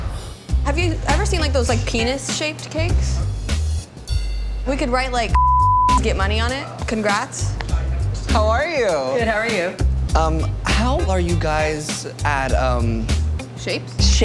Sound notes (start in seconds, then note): 5.3 beep